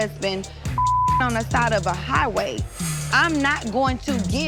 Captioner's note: beep